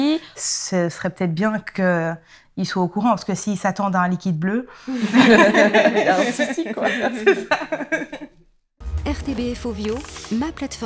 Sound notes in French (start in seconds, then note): 4.9 rires